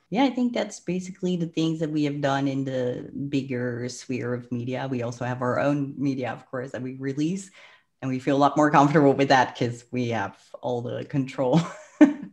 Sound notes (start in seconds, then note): 7.5 breath; 11.6 laughs